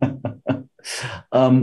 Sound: chuckles

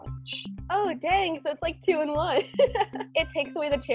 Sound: laughs

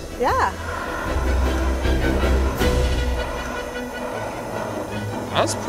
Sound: flame torch whooshing

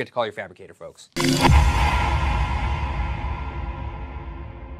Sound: graphics whooshing

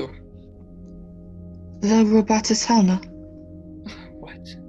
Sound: shyly

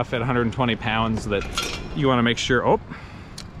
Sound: chain rattling

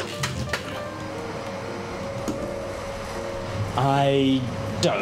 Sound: vacuuming

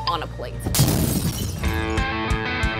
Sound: exploding; intense rock music

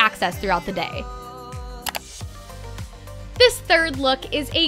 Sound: mouse click

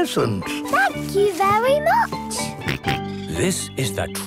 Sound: George snorts

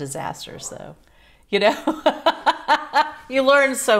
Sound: laughs

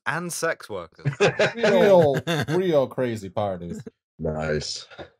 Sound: laughter

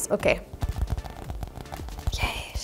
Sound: nails tap

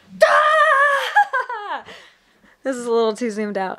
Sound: laughs

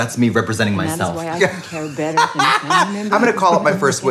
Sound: Trixie laughs

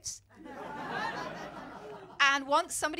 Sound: laughter

